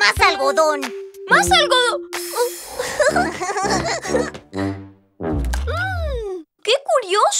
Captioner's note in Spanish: Risas